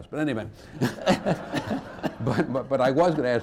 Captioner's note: laughter